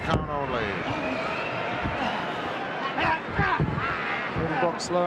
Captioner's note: crowd yelling